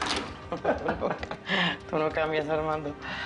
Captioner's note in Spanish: Risas